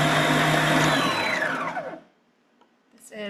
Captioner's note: mixer beeps